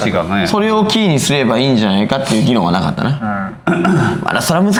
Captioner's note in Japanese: 笑い